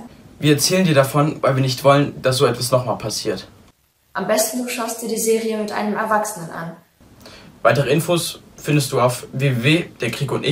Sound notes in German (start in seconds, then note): none